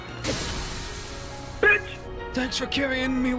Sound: ”Bitch” Soundbyte

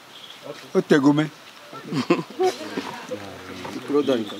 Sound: laughs

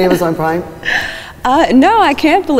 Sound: laughing

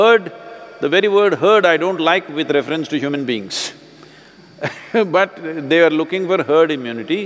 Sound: laughs

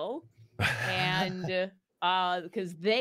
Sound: laughing

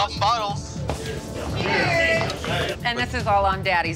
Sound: group cheers

